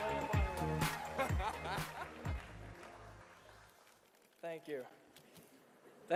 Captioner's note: cheering and applauding